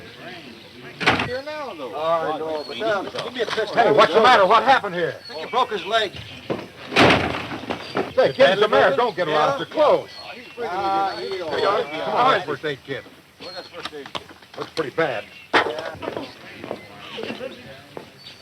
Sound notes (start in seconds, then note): 1.6 talking; 6.8 door slams; 8.3 talking exicitedly